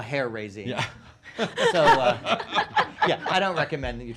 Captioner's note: laughing